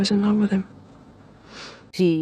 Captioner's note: sniffs